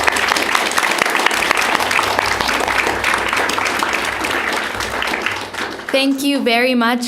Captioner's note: applause